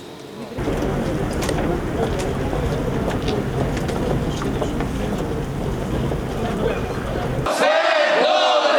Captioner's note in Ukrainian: звук кроків